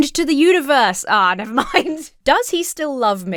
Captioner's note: laughs